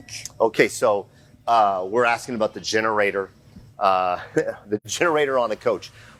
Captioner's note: chuckles